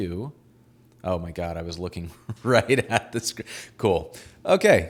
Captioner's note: laughing